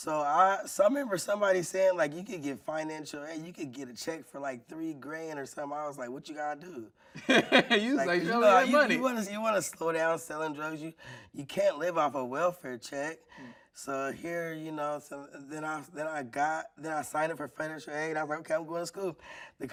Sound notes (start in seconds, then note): 7.2 laughing